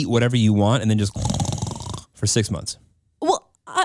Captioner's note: snores